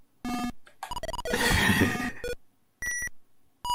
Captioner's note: hehehe